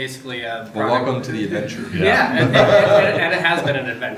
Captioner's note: laughs